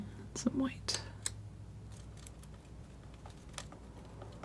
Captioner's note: scratching